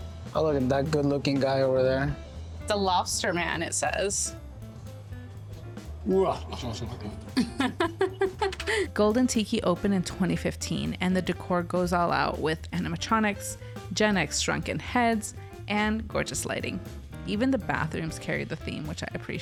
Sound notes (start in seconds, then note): 6.1 laughing; 6.2 moster voice